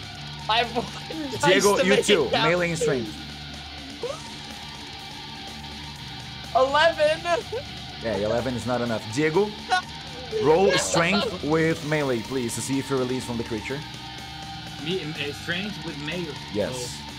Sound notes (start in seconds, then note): 4.0 scream muffled by Discord